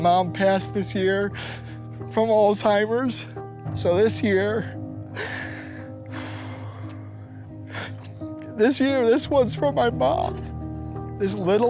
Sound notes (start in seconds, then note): 6.1 choking up